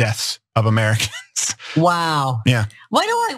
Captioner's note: laugh